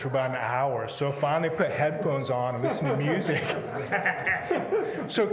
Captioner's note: laughs